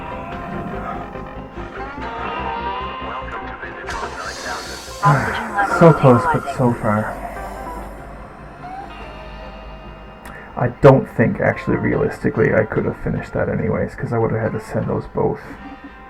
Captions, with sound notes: (sigh) So close, but so far. I don't think, actually, realistically I could have finished that anyways, 'cause I would have had to send those both.